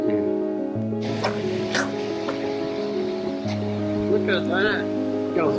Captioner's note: slurps